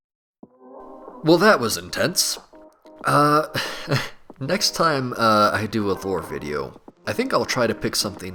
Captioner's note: laughs